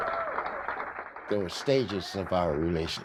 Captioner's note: cheers and applause